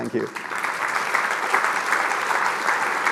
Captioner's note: applause